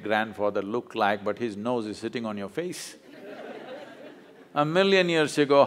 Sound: laughter

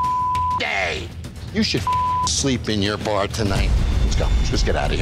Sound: beep

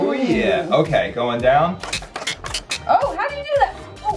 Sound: squeak

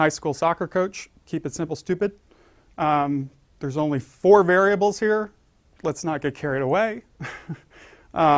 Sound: laugh

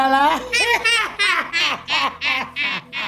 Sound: cackling

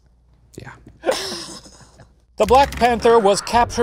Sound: laughs

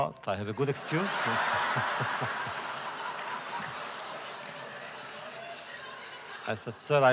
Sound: laughter

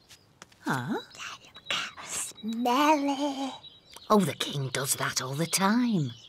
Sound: whispers

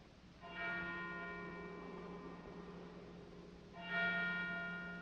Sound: church bell ringing

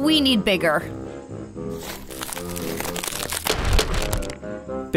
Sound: crackling

